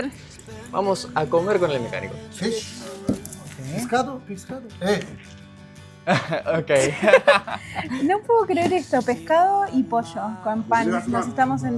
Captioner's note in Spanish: risas